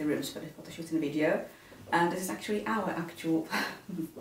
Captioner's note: chuckles